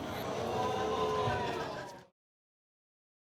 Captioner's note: crowd exclaiming